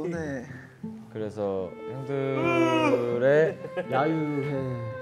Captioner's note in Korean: 우렁찬 하아품